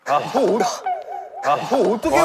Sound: everyone sighs

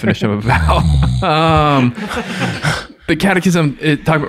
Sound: snoring

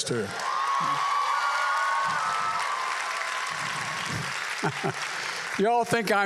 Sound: applause; laughs

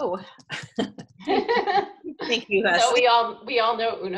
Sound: laughing

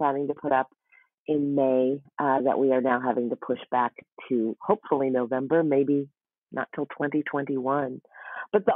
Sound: none

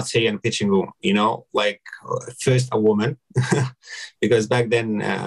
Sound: chuckles

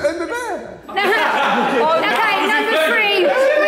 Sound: all laughing

